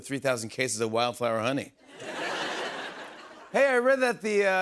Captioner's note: laughter